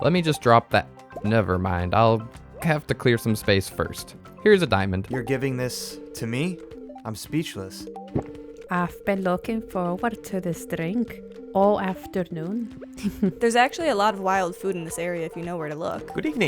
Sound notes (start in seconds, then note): 8.1 gulp